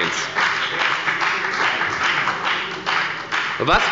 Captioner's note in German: Beifall bei der FDP – Zuruf von der SPD